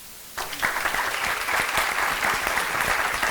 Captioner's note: applause